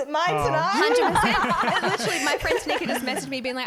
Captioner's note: laughing